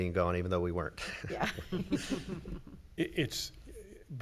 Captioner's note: chuckling